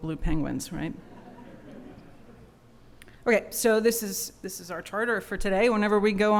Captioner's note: laughter